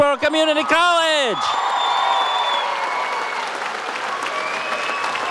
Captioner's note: audience cheers